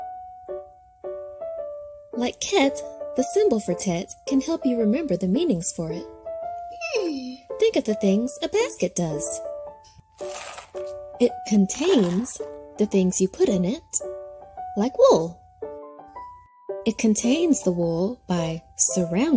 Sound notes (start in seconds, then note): 0.4 pensive piano music; 10.1 marbles crunching